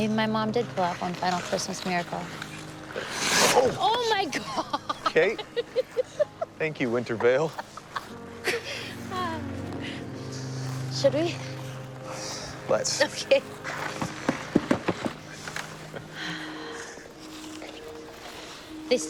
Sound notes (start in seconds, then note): 3.0 skates swishing; 8.4 light music; 13.4 feet thudding; 16.6 light music